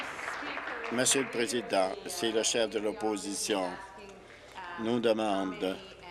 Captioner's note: applause